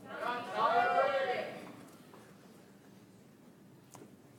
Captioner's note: audience applauds